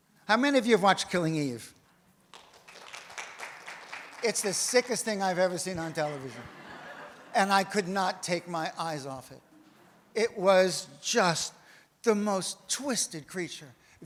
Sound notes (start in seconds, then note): 2.3 audience applauds; 5.7 audience laughs